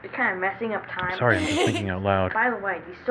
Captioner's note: laughing